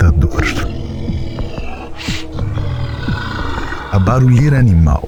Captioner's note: growling